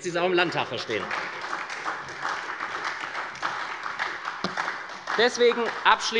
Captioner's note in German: Beifall bei der SPD